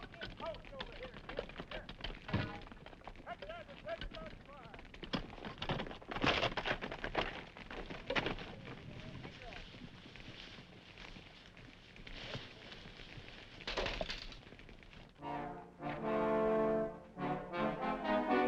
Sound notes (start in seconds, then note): 5.6 horse hooves clopping; 15.2 dramatic music